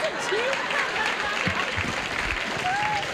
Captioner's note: laughter